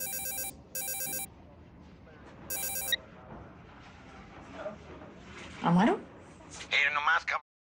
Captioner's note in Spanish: Suena el celular